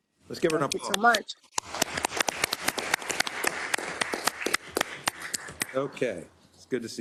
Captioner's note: applause